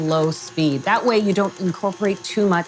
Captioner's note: mixer whirring